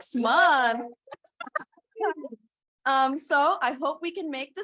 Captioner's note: chuckling